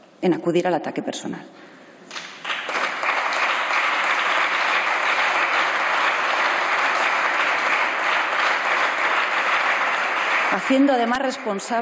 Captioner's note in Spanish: Aplausos